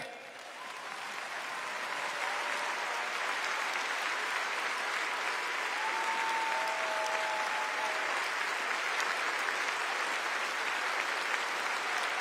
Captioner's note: applause